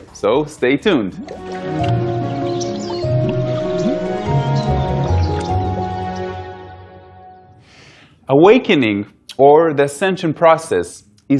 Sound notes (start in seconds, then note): 0.0 gentle music; 1.2 birds chirping